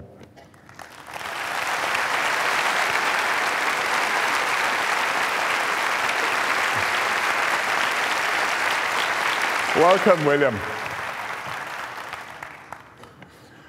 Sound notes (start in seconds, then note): 0.4 applause